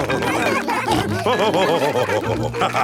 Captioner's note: all cheering; laughing